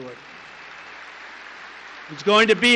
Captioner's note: applause